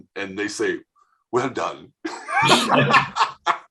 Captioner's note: does a British accent; everyone laughing